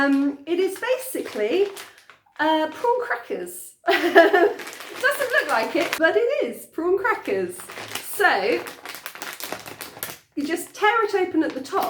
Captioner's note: laughing